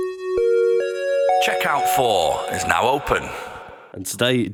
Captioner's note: chime